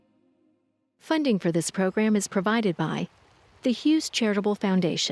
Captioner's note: voiceover